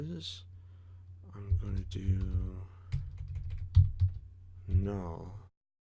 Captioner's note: typing